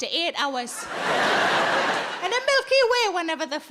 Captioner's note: audience laughing